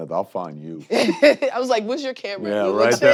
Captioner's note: chuckles